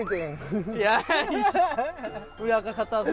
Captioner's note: huhuhuhuhu